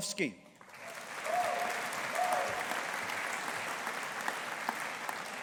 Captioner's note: audience applauding